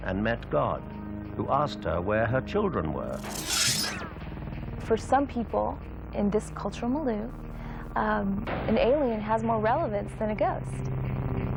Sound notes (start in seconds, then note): 3.1 electricity buzzes